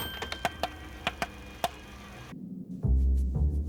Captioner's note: <i> bell dings</i>